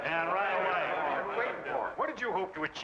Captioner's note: men chattering